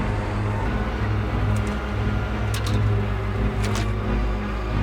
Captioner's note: engine revs